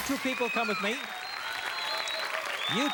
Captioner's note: cheers